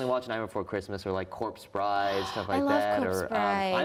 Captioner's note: gasps